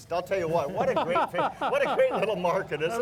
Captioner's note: laughing